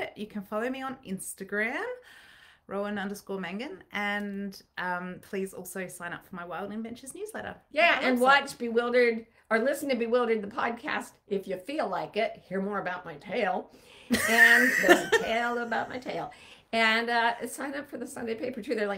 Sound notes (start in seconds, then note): 14.1 laughing